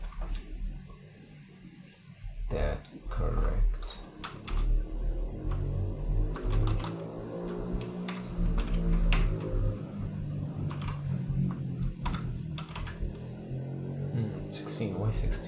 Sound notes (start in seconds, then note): 4.1 super noisy bike in the street